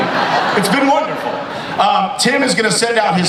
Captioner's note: audience laughs